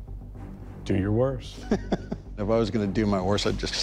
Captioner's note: laughs